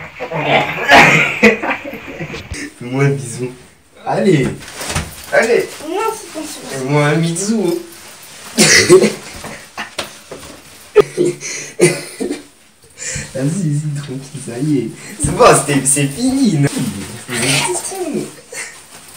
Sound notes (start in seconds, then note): 8.4 laugh